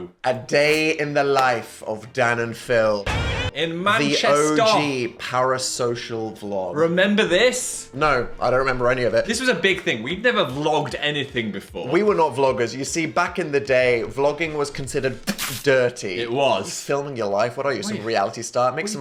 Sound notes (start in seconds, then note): 15.2 spits